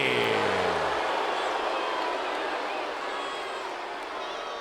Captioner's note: crowd booing